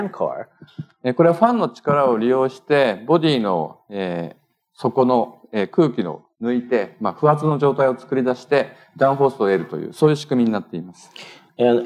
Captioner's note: speaking japanese